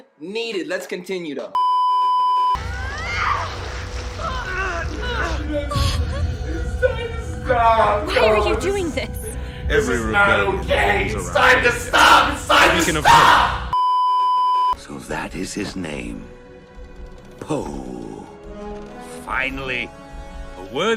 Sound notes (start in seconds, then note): 1.6 beeeeeeeeeeeep; 3.4 stressed groans; 4.2 cries; 4.6 stressed groans; 5.8 gasp; 13.7 beeeeeeeeeeeep